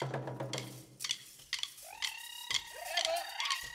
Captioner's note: shouting in language other than English; drumsticks clinking; shouting and drumsticks clinking